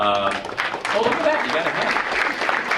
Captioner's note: audience applauding